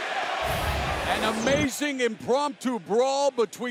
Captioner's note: crowd cheering